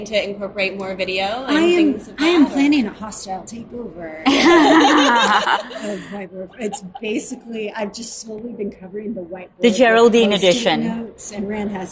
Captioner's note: laughter